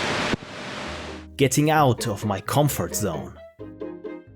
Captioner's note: narrating